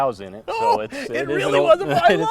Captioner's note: laughter